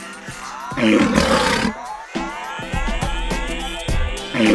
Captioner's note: lion's Roar; soft beat music